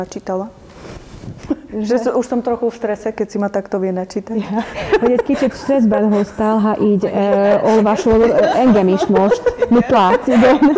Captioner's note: laughing